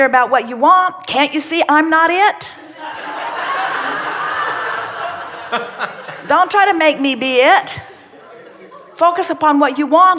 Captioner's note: laughter